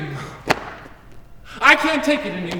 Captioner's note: hands clap at sides